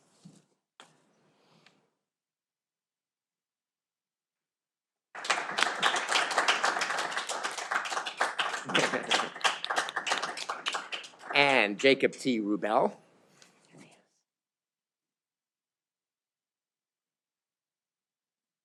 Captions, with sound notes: (audience applauding) And Jacob T Rubel.